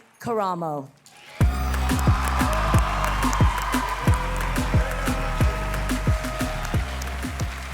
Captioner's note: audience cheering; cheerful music